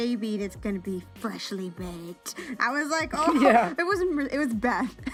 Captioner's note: laugh